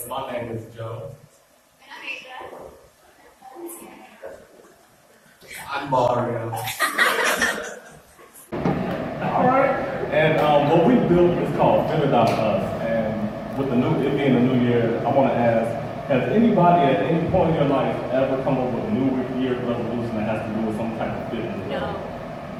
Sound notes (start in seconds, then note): 6.6 crowd laughter